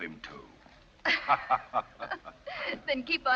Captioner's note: laughs